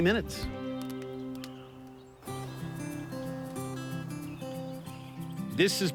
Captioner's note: birds chirping